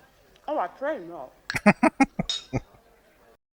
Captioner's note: laughing